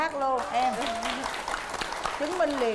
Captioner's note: applause